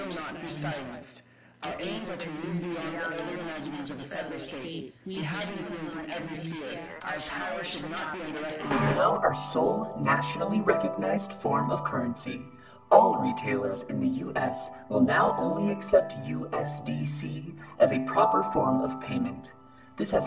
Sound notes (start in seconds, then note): 8.8 metallic Voice Over